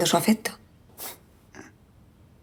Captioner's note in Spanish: exhalación con desdén